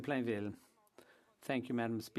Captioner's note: speaking French